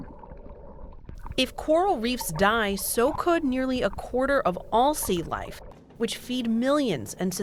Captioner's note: voice-over